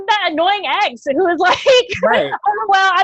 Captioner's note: laughs